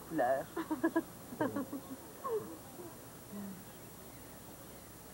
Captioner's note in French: Rires